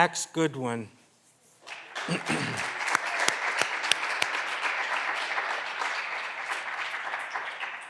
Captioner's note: clapping continues; clears throat